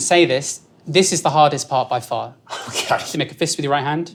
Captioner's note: chuckles